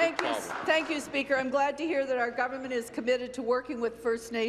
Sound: applause

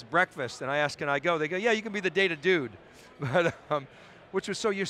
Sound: chuckling

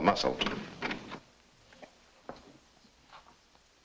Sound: door clicks open

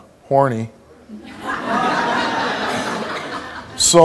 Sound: audience laughs

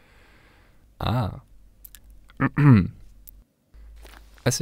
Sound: clears throat

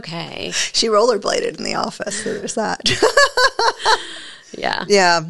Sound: laughs

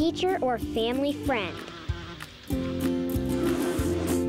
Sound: buzzing

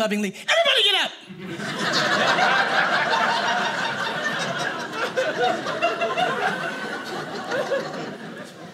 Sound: audience laughing

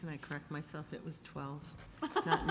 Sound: laughing

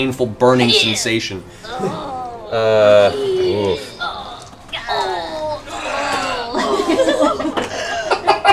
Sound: exaggerated pain noises

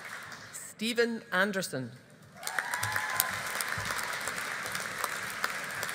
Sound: audience applauding

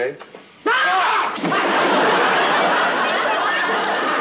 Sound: screaming

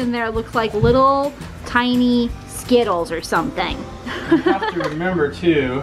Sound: laughs

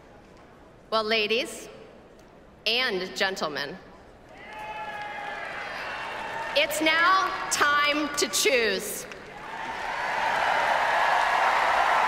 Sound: applause

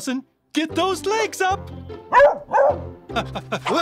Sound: barking

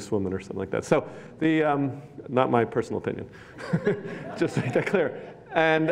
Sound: laughs

